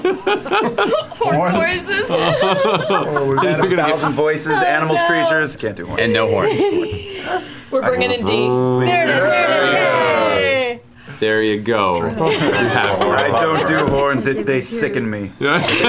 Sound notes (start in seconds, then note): 7.4 deep and cool horn sound; 9.0 cheering